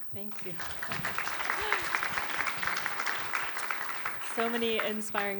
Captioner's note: applause